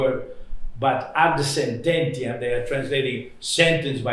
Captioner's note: non-english